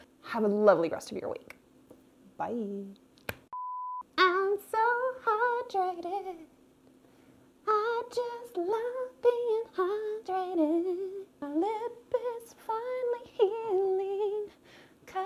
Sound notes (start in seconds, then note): 3.6 high pitched tone beeping